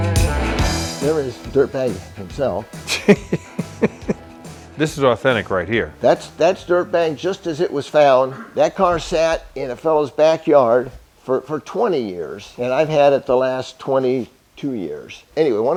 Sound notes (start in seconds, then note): 2.8 laughter